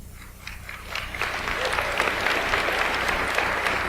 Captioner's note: audience applauds